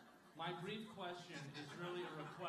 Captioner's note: laughter